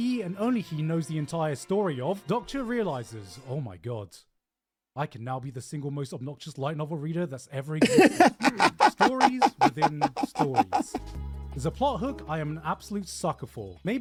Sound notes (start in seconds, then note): 7.8 laughing